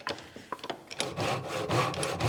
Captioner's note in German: Sägegeräusch